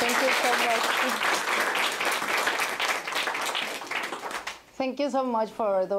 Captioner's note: applause